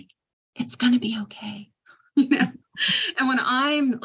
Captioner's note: chuckles